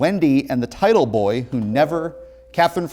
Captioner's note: ringing